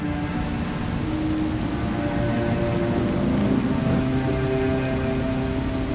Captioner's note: rain pouring